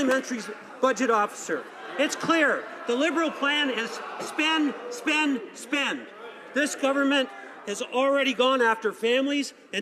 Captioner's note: some Applause